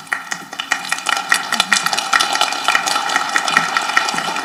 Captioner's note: people applauding